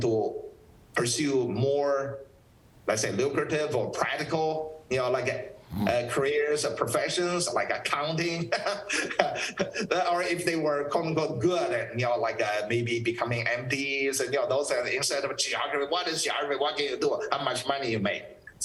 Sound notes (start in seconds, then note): 8.6 laughs